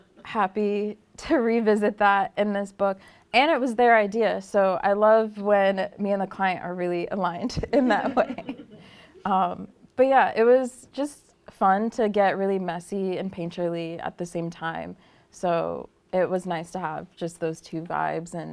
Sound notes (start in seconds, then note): 7.7 laughter